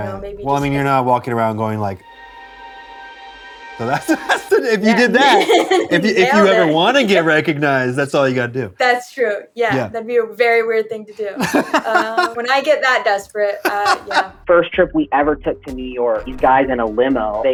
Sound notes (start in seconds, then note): 3.9 laughter; 11.3 laughter; 13.5 laughs